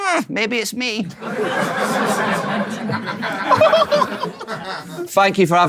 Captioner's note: people in room laughing in shock